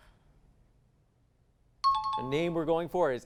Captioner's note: high-pitched tones